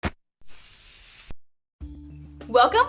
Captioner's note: marker scraping; aerosol can hissing